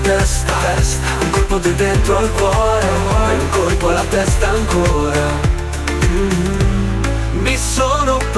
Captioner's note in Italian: mmm